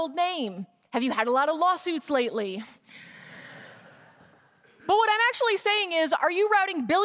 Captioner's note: laughter